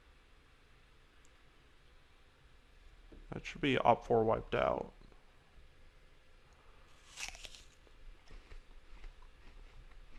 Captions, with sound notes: That should be OPfor wiped out. *apple crunch*